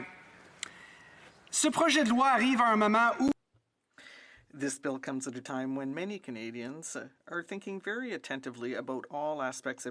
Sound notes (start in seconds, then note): 6.4 speaking French